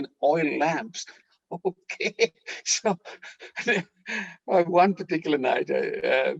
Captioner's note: laughing